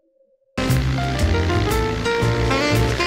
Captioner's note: plane engine roaring; soft jazz music